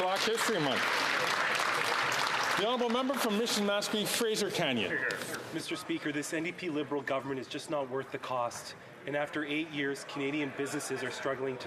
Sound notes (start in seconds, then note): 0.0 some Applause